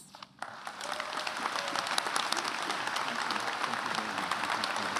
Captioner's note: attendees applauding